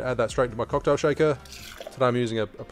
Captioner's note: liquid running